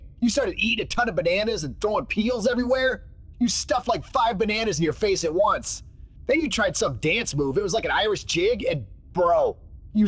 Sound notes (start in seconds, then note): none